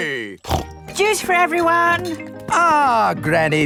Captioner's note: snorts